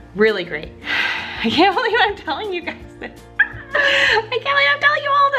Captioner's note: laughs